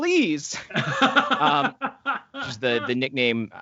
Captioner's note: laughing